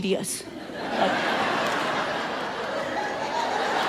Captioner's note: audience laughs